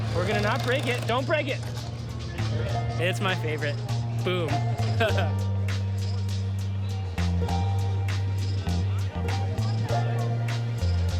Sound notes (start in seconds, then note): 5.7 laughing; 6.9 bouncy country music